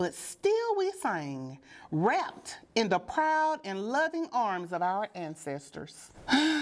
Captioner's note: sigh